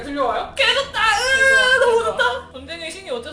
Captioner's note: moaning